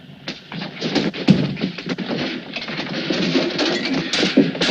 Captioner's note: pillow thuds